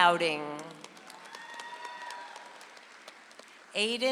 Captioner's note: audience applauds